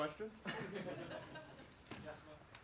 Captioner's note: laughs